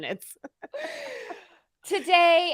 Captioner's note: laughs